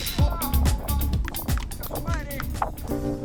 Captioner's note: clapping; chill atmospheric music